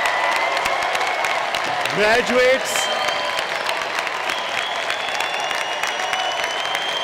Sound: cheering and applause

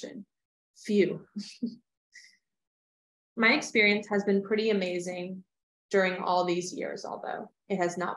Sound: laughter

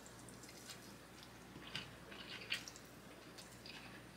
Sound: chewing

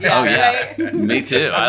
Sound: laughing

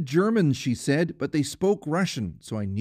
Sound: speaking Foreign Language

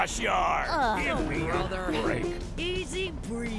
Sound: trucks groaning

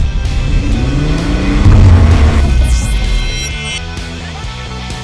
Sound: engine revving

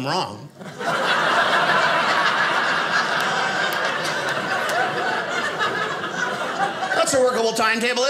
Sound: audience laughing

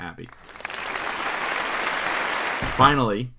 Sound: audience claps

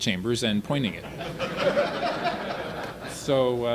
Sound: audience laughter

